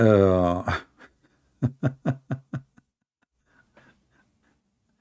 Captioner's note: Ketawa